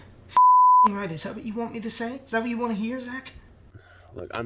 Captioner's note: beep